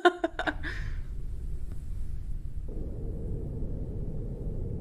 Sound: ambient air sounds

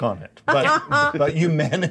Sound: co-host choking

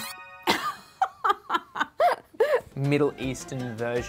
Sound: laughs

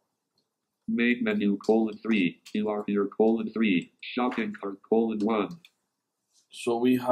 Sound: computerised voice

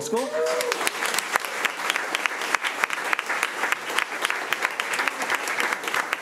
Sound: crowd cheering and clapping

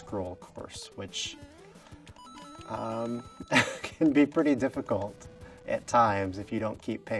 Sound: chuckle

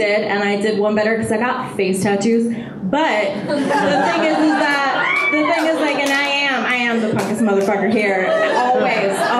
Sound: audience laughter

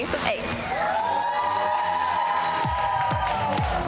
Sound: crowd cheering; techno hip hop music

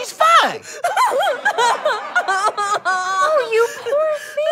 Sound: sobbing continues

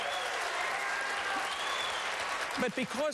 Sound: applause

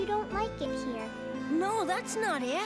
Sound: none

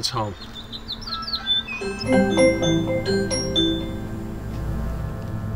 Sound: Ring Doorbell sound

